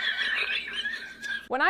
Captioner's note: laughs